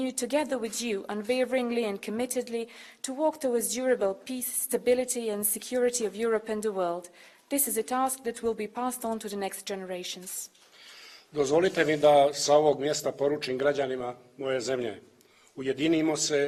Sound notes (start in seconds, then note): 12.5 speaks in Montenegrin